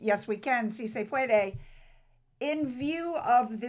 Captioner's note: speaks foreign language